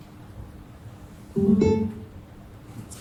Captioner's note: JBL Bluetooth connecting sound